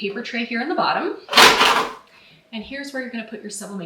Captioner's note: printer tray rattles